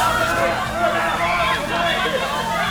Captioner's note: mob panic; tear gas hissing; screams